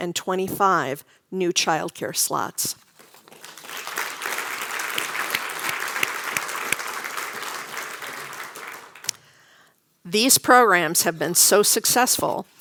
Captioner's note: applause